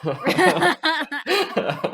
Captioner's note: laughter